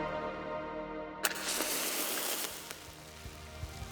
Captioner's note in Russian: зажигание спички